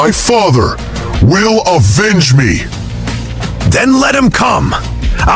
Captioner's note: coldly